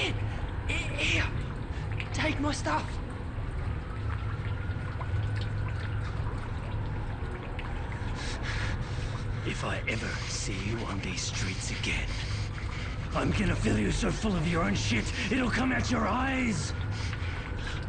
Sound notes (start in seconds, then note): 3.3 police siren bellows